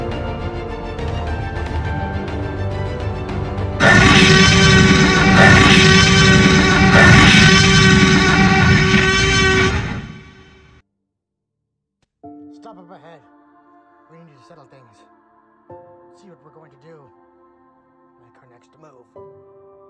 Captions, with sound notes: (T-Rex roaring) Stop up ahead, we need to settle things. See what we're going to do. Make our next move.